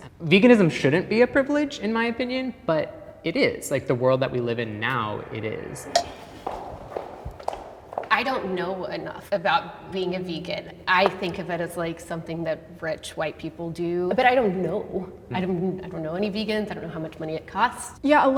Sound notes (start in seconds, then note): 5.9 stick clanking; 6.0 footsteps thumping